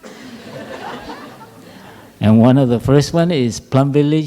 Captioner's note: laughter